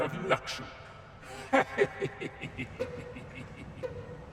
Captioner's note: leprechaun laughing; eerie string music